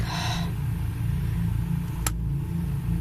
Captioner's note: sighs